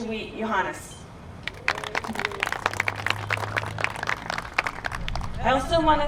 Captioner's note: applause